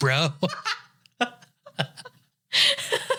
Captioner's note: laughing